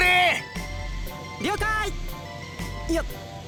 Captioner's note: shout